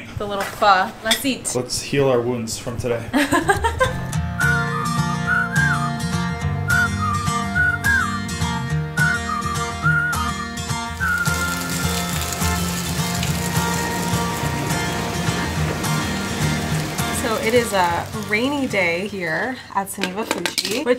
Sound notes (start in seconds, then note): 3.1 laughing; 5.3 upbeat music; 12.3 rain pouring